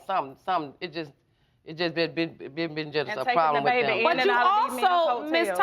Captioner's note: stammering